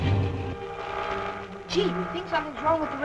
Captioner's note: static humming